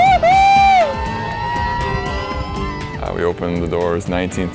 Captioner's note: riders yelling